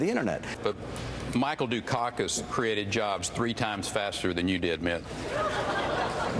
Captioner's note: laughter